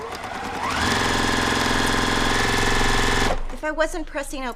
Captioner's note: machine sewing